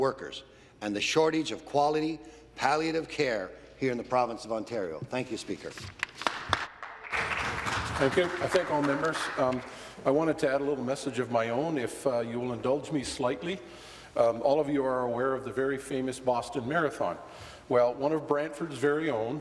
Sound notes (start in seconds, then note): 9.2 some applause